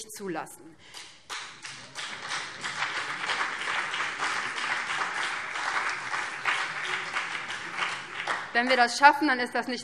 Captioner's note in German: Beifall BÜNDNIS 90/DIE GRÜNEN und vereinzelt CDU